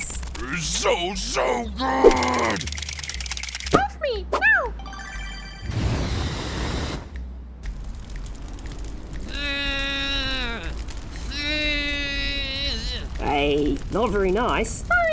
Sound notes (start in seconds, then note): 9.0 apathetic blowing